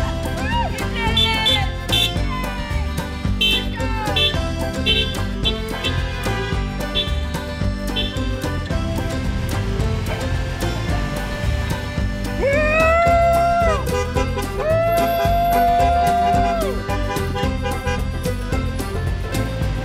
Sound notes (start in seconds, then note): 0.8 car horns honk; 0.8 women shouting; 16.3 car horns honk